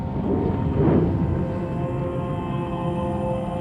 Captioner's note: fire blustering